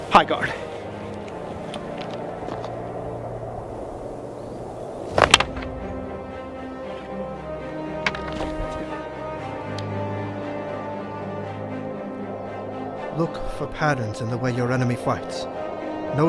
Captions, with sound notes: High guard. (wooden swords clap) (thrilling music) Look for patterns in the way your enemy fights.